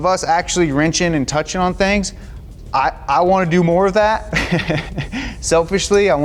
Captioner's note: laughs